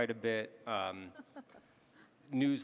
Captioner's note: panelists laughing